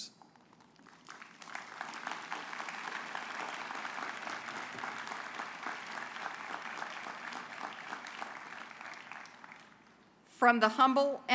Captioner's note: applause